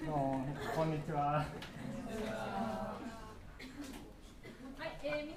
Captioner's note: speaking foreign language